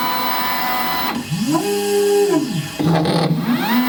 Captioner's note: machine sounds